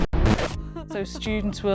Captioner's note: woman crying